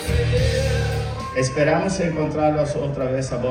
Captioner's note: speaking Spanish